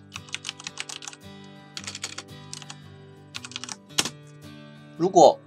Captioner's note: typing Sound